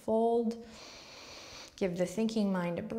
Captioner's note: inward breath